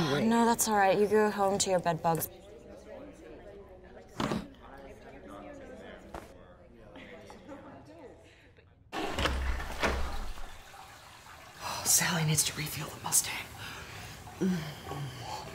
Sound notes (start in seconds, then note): 8.9 toilet flushes